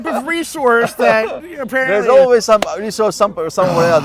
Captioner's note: güler